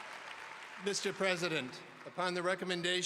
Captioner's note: applause